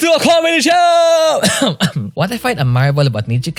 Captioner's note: cough